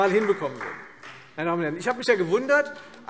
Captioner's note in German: Beifall Freie Demokraten